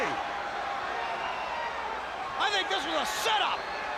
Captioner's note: crowd chatter